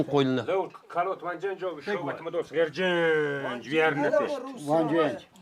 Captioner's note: man speaking in foreign language